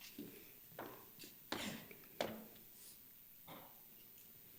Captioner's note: steps clack